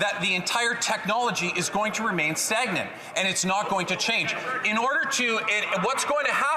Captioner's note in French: voix de l'interprète